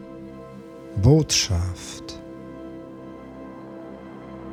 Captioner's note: german